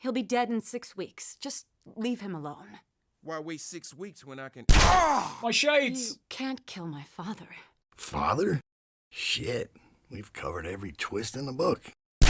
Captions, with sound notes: He'll be dead in six weeks, just... leave him alone. - Why wait six weeks when I can *gunshot* My shades! - You can't kill my father. - Father? Shit, we've covered every twist in the book.